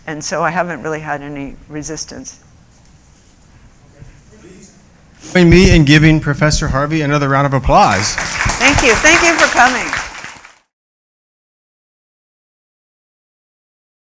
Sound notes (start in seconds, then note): 7.7 applause